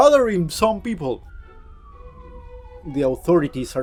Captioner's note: sirens in the distance